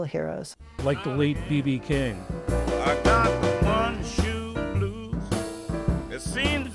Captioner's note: voice-over